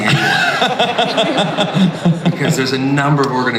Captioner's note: audience laughs